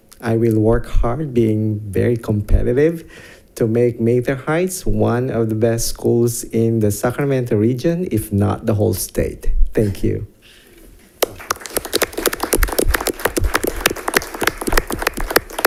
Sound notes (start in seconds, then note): 11.2 audience applauds